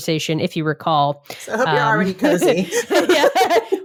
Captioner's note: both laughing